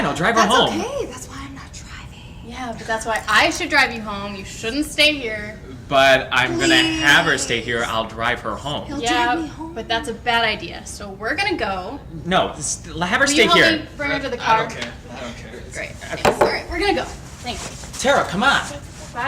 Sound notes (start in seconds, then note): 1.3 whispering